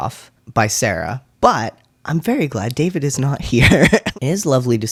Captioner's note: laugh